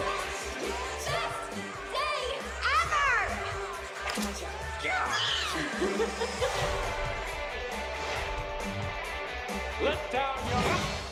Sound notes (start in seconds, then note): 4.9 Flynn shrieks; 5.6 Rapunzel giggles; 7.3 upbeat music